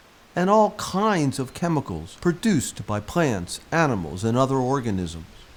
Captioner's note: leaves rustling